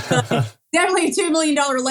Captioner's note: laugh